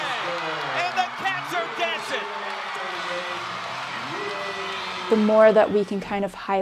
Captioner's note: cheering